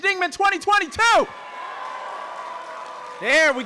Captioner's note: audience cheering and applauding